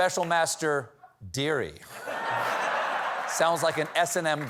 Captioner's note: laughter